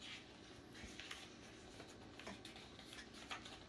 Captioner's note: paper ruffling